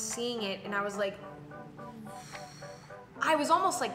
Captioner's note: exhales loudly